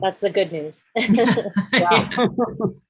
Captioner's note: laughs